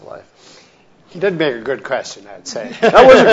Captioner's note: laughs